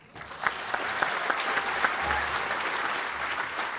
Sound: applause

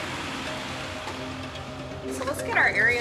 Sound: ambulance driving in

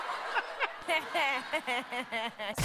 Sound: laughing

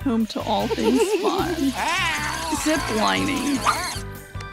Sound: screaming

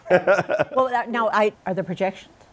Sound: laughter

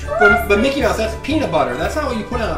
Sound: voiceover

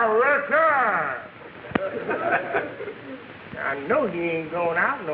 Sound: audience laughing

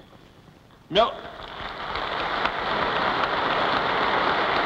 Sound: applause

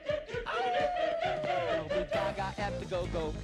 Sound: howling

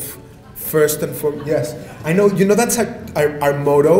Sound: audience laughter

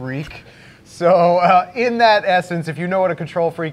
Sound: chuckles

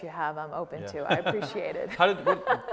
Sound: laughs

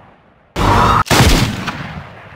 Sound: speaks ANGRY ugly hair language

